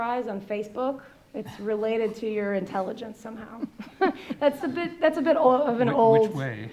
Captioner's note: laughs